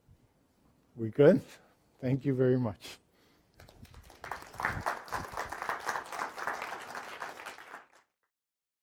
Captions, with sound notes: We good? Thank you very much. (applause)